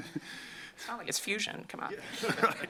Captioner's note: laughter